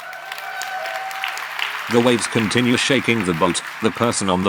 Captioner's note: applause